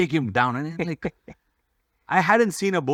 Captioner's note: laughs